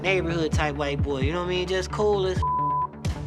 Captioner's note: beep